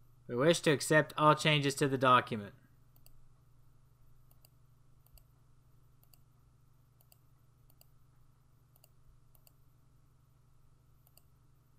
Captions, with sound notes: We wish to accept all changes to the document. [long pause]